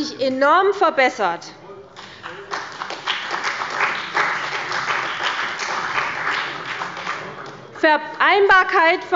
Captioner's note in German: Beifall bei der CDU und dem BÜNDNIS 90/DIE GRÜNEN